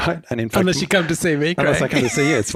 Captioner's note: laughs